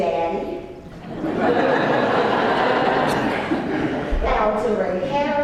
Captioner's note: laugh